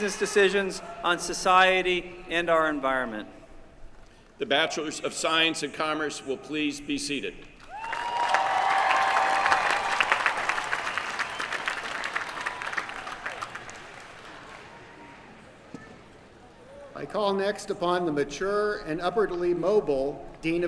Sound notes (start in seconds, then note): 7.6 applause